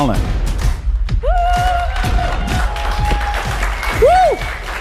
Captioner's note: applause